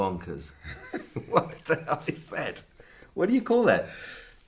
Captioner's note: laughing